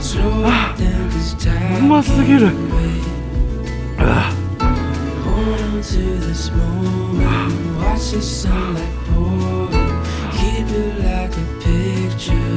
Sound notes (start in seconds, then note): 9.9 haha